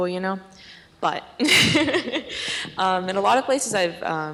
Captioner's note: laughs